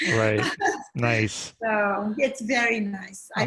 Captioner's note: laughing